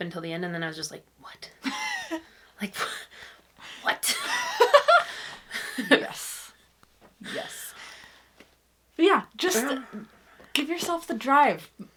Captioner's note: laughs